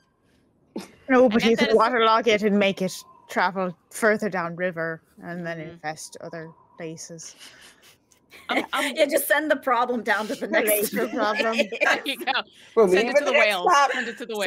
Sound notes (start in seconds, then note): 10.0 group laughing